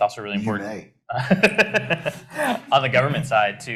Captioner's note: laughs